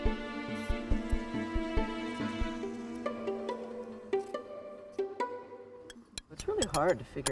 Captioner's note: insects buzzing